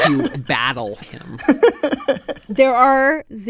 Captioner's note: laughter